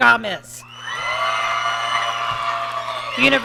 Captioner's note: audience cheering